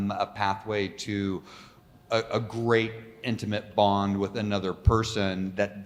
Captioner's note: none